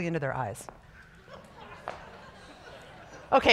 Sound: scattered laughter

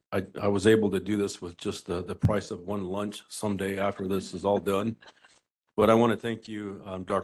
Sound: laughing

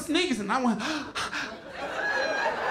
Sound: gasping; laughter

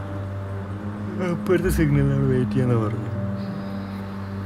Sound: yawning

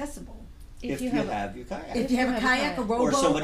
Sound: voiceover

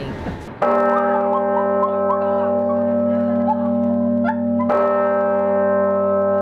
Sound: bells ringing loudly

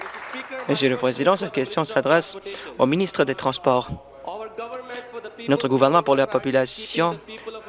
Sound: applause

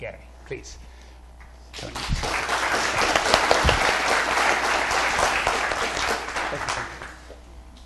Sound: applause

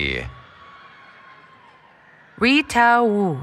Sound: cheering

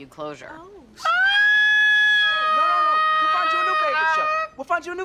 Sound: ABED shrieks loudly

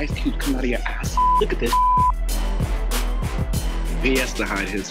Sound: beep

